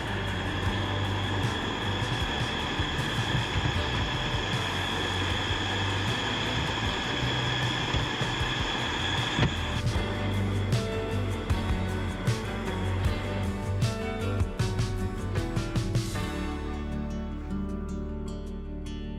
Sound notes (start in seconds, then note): 5.4 engine revving; 11.7 upbeat music